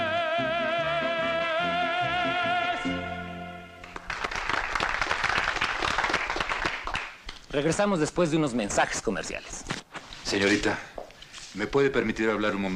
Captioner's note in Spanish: Aplausos